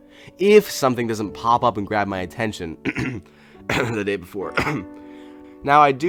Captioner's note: coughs